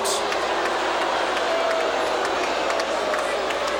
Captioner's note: audience shouting